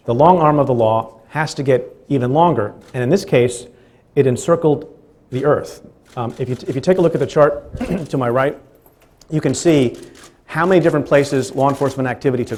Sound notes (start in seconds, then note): 5.8 stutters; 7.6 clears throat